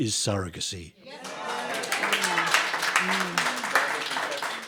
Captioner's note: audience clapping